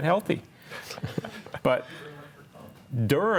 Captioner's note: group laughs